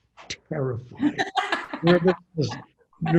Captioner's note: laughing